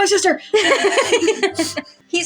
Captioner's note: laugh; chuckle